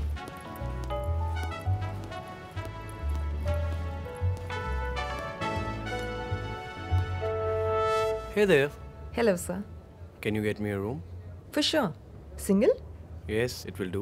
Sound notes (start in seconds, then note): 0.0 lobby music; 2.3 suitcase's wheels’ sound; 4.9 lobby music